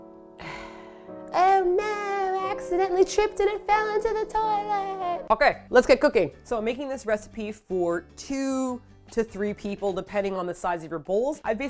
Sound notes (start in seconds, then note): 0.4 grossed-out sigh; 1.2 sarcastic tone